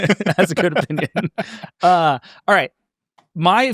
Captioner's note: laughing